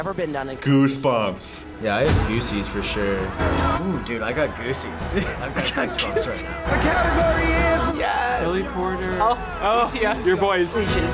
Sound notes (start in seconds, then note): 5.0 laughs